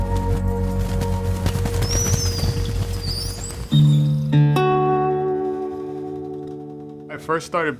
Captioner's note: gentle music continues; wings flapping; birds whistling